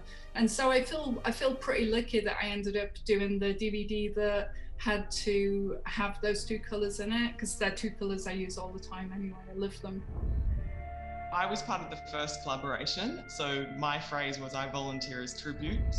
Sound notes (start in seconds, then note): 10.1 scene whooshing; 10.5 pensive music